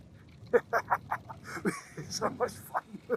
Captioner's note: laughs